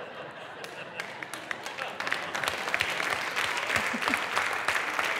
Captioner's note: audience clapping